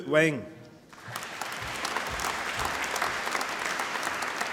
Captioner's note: applause